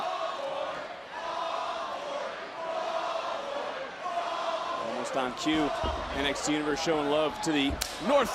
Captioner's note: crowd chants